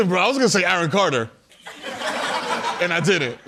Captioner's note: laughter